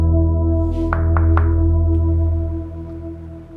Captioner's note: knocking at the door